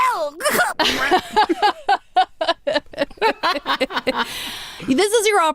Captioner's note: laughing